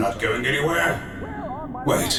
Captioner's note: Krillin talking in distance